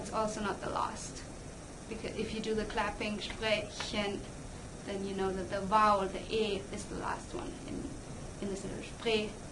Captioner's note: clap